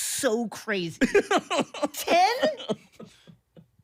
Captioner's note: laughing